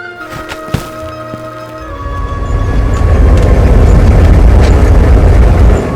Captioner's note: none